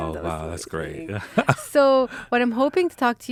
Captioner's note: laughing